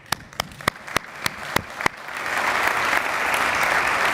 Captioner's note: audience applauding